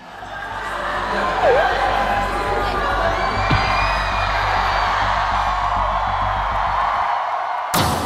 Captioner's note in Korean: 멤버들 등장에 환호성 폭발